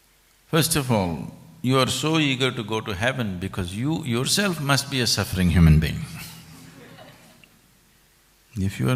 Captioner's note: few laugh